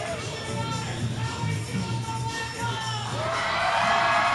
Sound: shouting from crowd; cheers

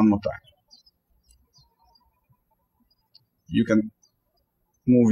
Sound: birds chirping

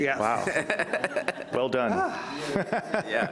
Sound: laughing

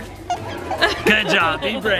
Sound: squeaking shake

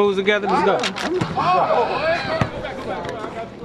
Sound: crowd yelling

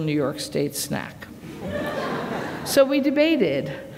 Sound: laughter

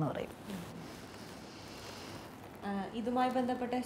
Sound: takes a deep breath

